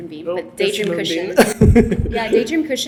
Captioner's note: laughs